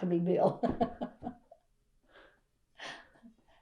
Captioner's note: laughs